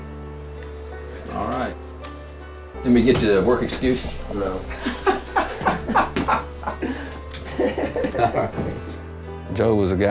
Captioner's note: laughing